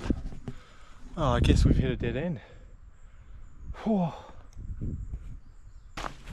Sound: exhales

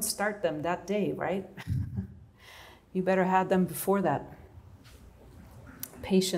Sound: laughter

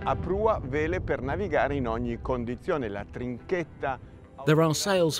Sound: speaking in foreign language

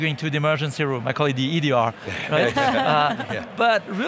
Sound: hosts laughing

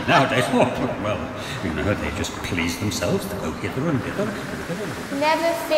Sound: Poseidon grumbles

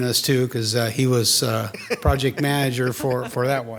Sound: attendees laughing

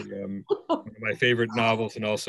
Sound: laughs

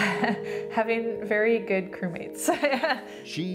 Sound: laughs

